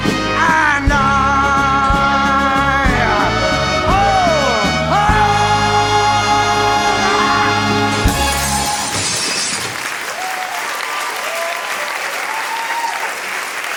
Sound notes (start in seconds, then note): 5.0 George screams; 8.0 glass smashes and crunch